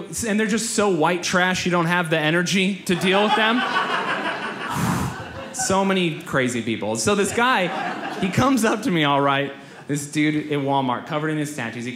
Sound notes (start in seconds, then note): 2.9 audience laughs; 4.7 exhales loudly